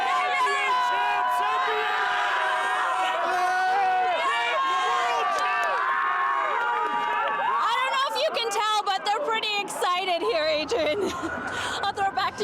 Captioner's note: cheers and applause